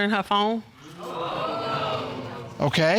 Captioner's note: audience exclaims